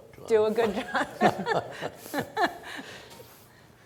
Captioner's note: laughs